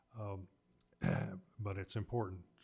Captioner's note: clears throat